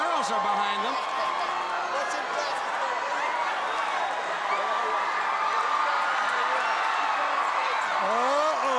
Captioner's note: crowd cheering